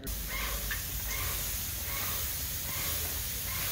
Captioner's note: sprayer spraying